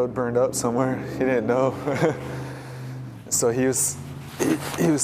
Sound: laughs

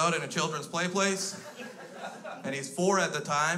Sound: crowd laughs

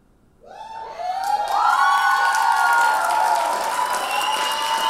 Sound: audience applauding

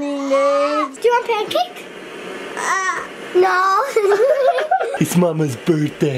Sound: whines

